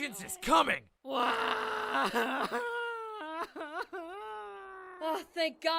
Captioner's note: cries